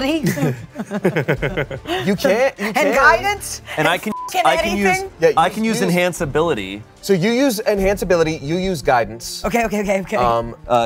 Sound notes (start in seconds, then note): 0.2 everyone laughs; 4.0 beep